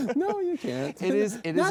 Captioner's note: laughs